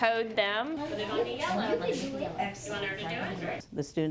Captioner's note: classroom chatter